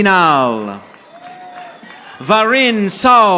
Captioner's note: audience applauding